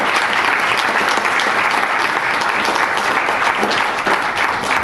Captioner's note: audience applauds